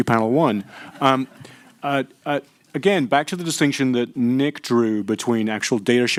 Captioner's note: laughter